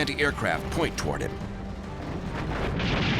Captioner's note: flak fire